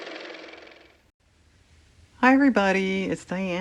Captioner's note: car motor